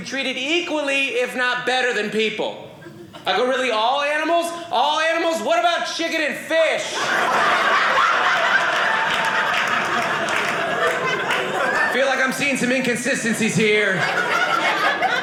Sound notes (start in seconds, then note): 6.8 audience laughing